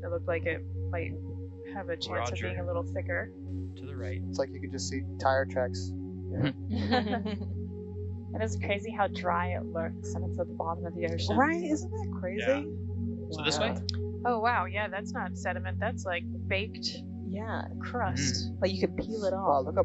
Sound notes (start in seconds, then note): 5.2 laughing